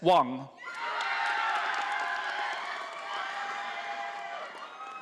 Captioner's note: audience applauding